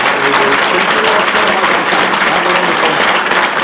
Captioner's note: applause